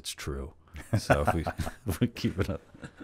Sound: laughs

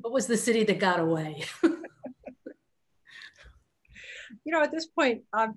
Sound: laughs

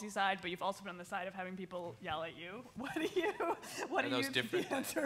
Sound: chuckles

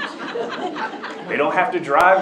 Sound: laughter

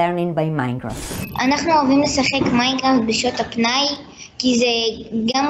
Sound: slide screeches; speaks foreign language

